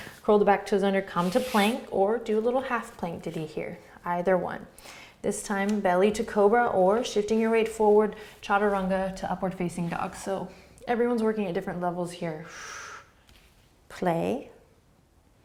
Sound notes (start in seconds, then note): 12.4 exhaling breath